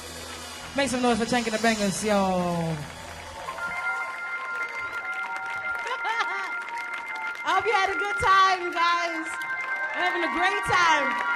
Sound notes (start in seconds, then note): 0.3 audience applauds; 5.2 audience applauds